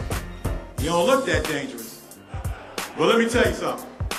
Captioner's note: laughter